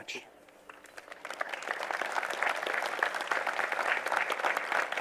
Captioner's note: applause